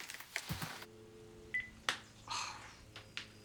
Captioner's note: dial tone, beep; sigh